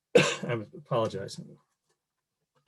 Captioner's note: coughs